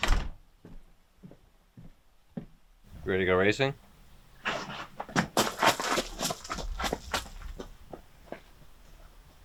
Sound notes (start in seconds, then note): 0.0 door thuds; 4.3 footsteps rustling